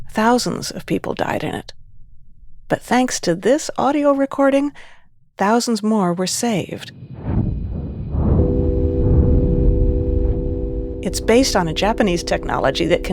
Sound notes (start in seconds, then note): 6.9 muffled vibration whooshing; 7.4 soft tone chimes